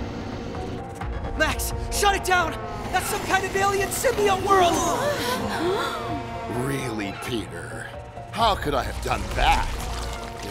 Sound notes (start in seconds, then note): 5.0 gasping